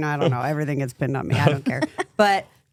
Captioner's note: everyone chuckles